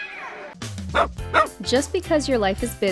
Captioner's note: upbeat music; dog barking